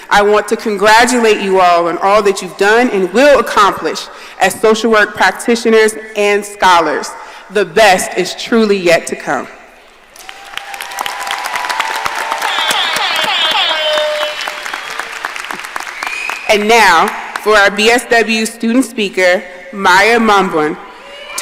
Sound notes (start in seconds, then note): 10.1 audience applauding and cheering; 12.4 siren blaring